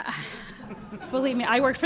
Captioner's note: audience laughing